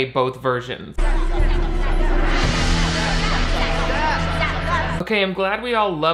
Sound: students excitedly chattering

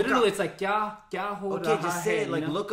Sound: foreign Language

